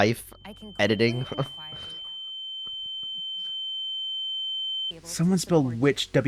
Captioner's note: ear ringing sound